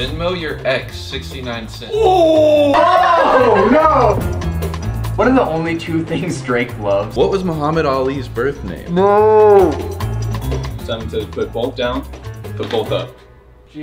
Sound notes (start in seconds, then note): 2.7 laughter in background; 4.6 upbeat instrumental music